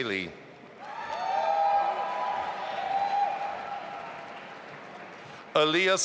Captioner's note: audience applauding and cheering